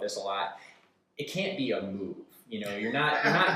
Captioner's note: laughs